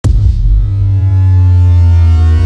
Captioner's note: intro sound stretched and slowly rising in pitch